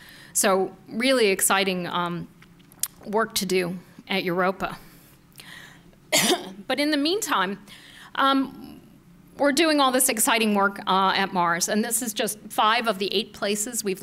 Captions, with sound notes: SO REALLY EXCITING WORK TO DO AT EUROPA. [coughs] BUT IN THE MEANTIME, WE'RE DOING ALL THIS EXCITING WORK AT MARS. AND THIS IS JUST FIVE OF THE EIGHT PLACES WE'VE LANDED